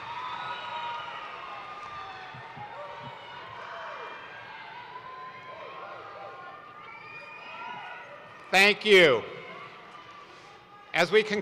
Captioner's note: cheers and applause